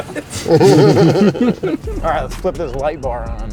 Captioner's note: all laughing